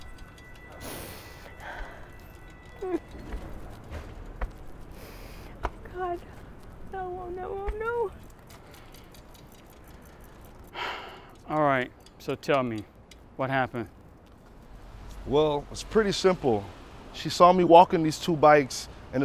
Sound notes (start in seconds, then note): 0.9 woman sobbing; 10.7 exhales